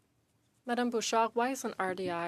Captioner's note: speaking French